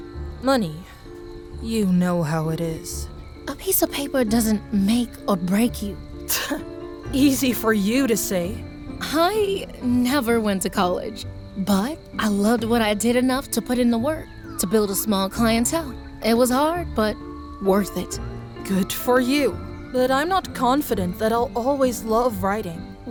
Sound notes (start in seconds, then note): 6.1 scoffs